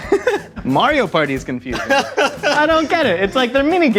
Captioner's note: laughing